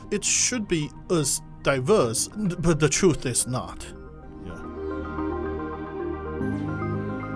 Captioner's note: voiceover